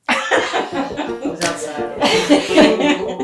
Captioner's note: laughing